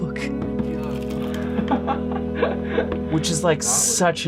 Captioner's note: laughing